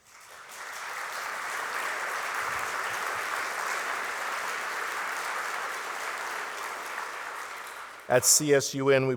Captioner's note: applause